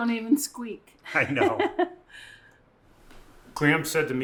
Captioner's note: person laughing